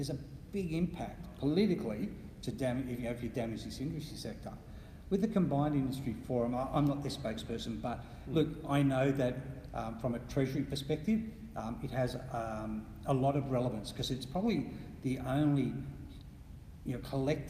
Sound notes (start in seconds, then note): none